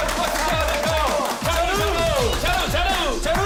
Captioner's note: with the intense cheering